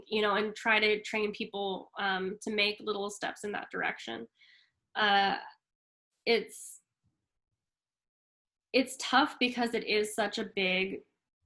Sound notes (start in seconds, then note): none